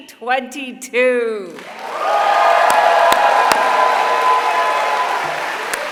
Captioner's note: applause